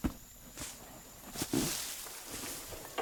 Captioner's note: grass rustling